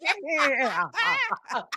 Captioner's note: laughs